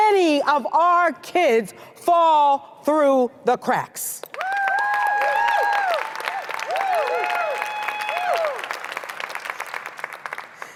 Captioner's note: applause